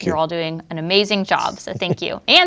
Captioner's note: chuckles